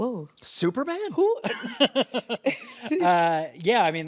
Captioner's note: all chuckle